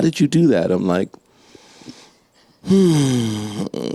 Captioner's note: inhales deeply